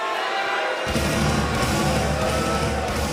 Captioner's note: crowd cheering